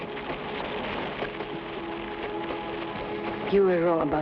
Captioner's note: flames crackle